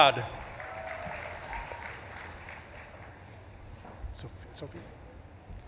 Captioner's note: audience claps and cheers